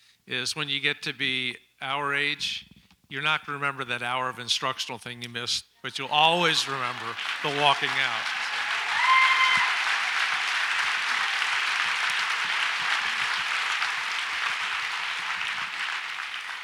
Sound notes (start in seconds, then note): 8.6 audience applauds